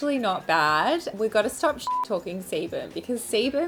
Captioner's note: beep